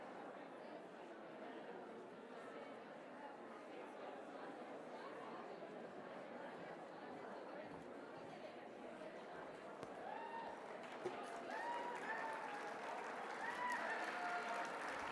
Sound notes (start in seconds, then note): 9.9 cheering